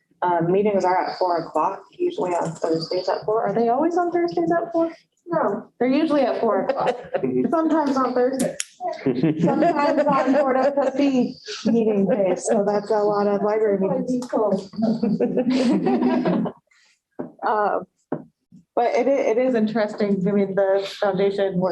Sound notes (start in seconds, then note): 8.6 laughter